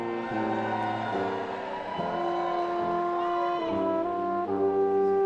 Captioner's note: attendees cheering and applauding